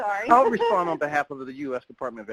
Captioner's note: laughs